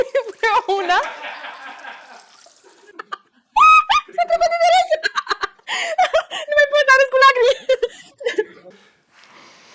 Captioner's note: laughing and enjoying the moments